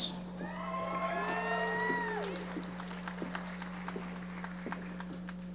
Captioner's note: audience members applauding